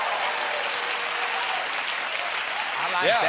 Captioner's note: applause